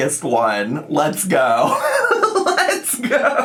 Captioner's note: laughs